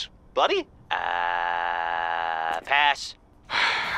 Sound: groaning

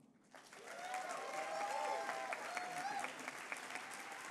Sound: applause

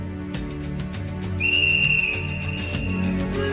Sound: whistle blows

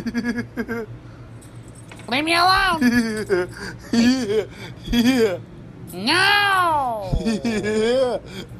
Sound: laughing

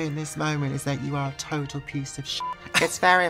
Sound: beep

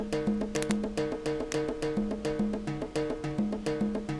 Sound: neck cracking

